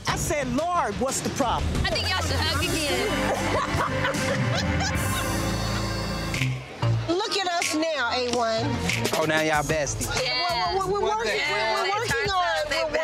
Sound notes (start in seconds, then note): 2.5 laughter; 6.4 upbeat music